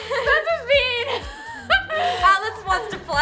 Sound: laughs

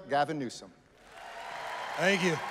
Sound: applause

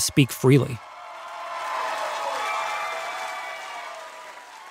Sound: audience cheers

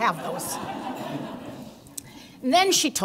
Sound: laughter

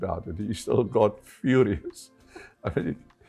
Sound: chuckles

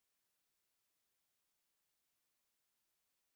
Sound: none

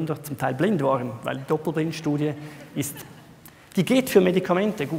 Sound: laughter

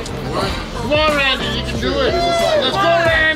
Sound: cheering

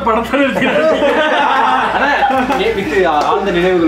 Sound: laughs

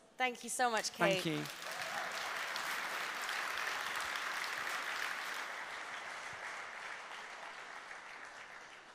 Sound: applause

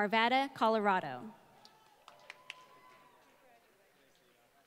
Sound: applause

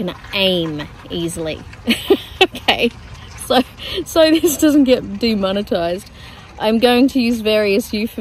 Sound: laughs

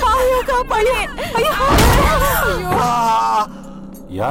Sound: slams door

